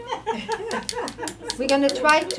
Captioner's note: laughing